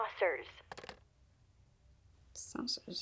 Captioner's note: phone disconnects